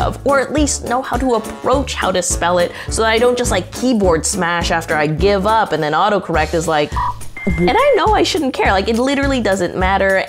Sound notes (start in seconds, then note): 6.8 electronic static whirs